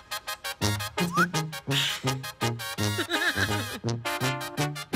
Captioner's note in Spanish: Risas